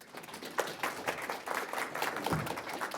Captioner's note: applause